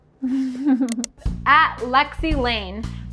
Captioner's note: chuckling